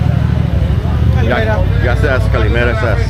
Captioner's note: speaking in foreign language